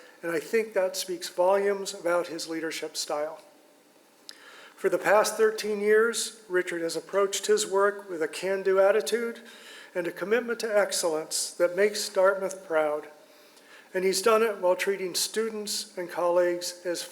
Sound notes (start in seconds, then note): none